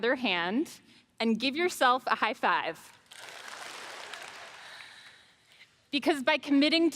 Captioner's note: audience claps